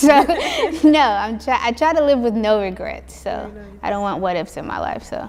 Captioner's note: laughs